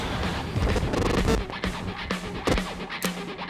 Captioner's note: static